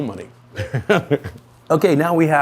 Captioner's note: laughs